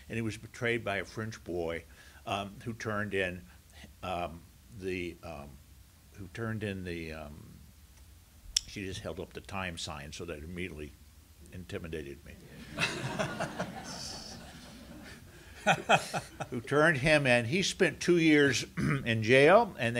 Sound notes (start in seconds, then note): 12.5 laughter